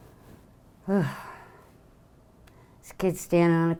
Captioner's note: sighs